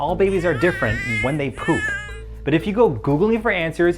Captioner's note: baby crying